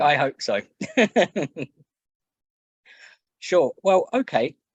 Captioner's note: laughs